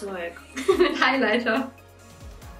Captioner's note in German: lacht